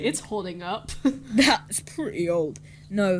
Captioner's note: chuckles